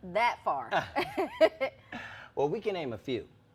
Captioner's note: laughs